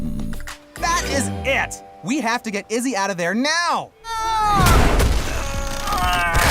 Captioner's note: yells; grunting